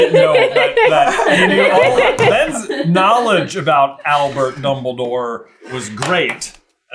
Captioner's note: laughter